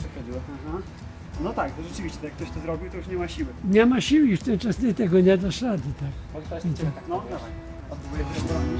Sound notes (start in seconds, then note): 1.6 general sounds of appreciation